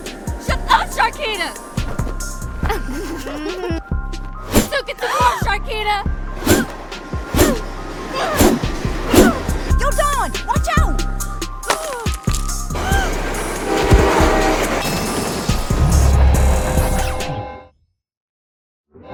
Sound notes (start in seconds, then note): 2.6 girls snickering; 6.3 hammer swooshes; 11.5 cracks; 12.7 train hoots; 12.8 Dawn gasps; 14.8 hummer and rail track clink